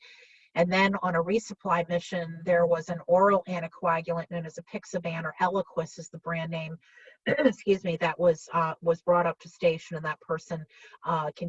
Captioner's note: clears throat